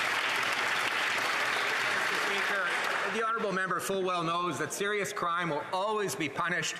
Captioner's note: applause